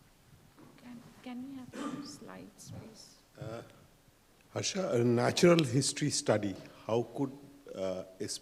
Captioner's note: clears throat